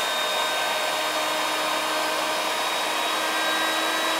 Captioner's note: tool whirring